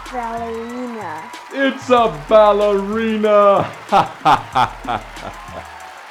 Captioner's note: laughter